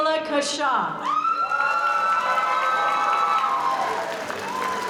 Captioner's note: audience cheering